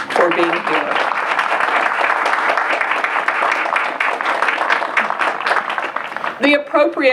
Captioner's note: applause